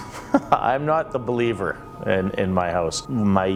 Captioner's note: chuckles